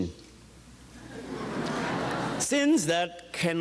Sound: audience chuckles

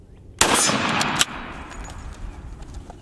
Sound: gun shot

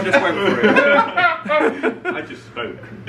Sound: friends laughing

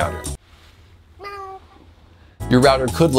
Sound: meowing

